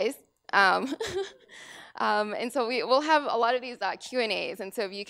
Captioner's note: laugh